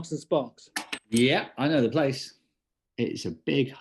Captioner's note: drops coin